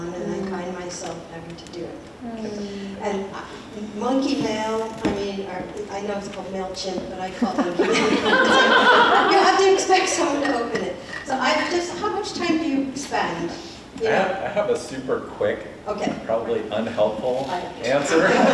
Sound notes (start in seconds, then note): 7.4 audience laughs